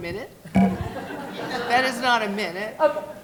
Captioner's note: laughing